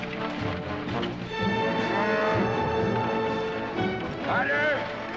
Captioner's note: cattle lowing